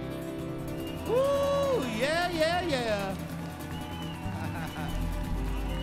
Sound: crowd cheers

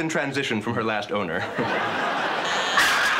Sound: door buzzer

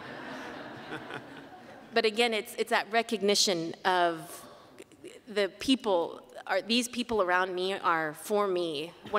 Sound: laughter

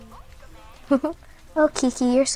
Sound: Sarah chuckling

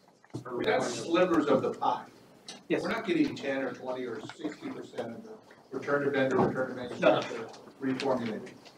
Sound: indistinct chatter

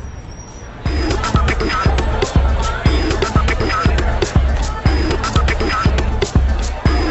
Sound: crowd chattering; upbeat techno music

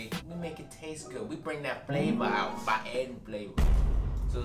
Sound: none

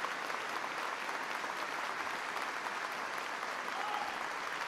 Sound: applause

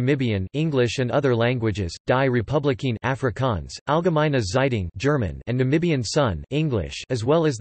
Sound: German

